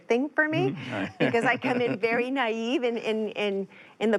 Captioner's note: laughs